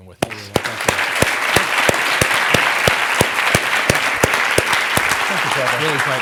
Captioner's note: audience applauding